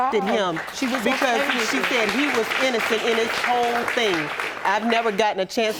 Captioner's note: audience applauding